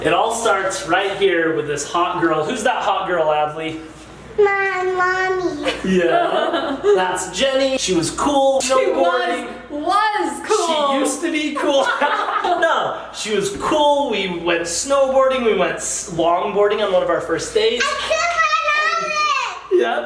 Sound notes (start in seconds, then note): 5.6 laughs; 11.5 both laugh